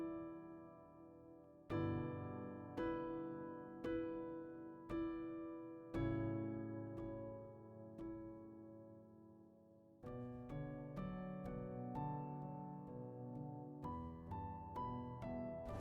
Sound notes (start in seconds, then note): none